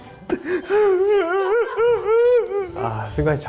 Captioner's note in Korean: 별안간 오열